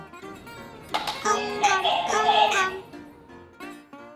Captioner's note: tap!